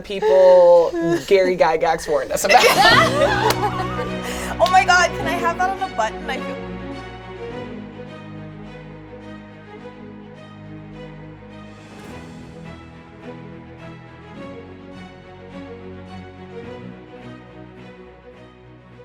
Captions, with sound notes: - We are the people Gary Gygax warned us about. (all laugh) - Oh my god, can I have that on a button? I feel- (adventurous music)